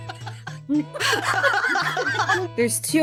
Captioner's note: all Laughing